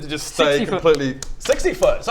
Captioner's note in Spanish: golpes